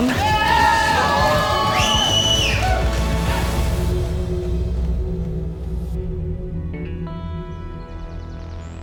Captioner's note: cheering